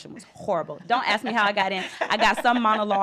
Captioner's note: laughter